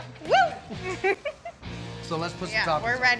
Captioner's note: giggles